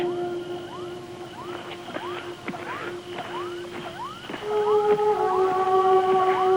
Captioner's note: electronic beeping; dramatic music